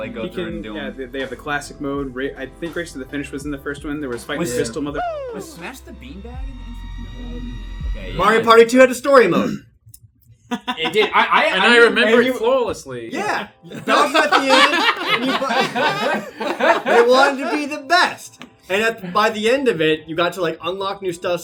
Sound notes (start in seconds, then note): 13.6 laughs